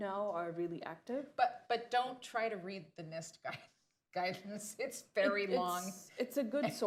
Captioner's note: laughs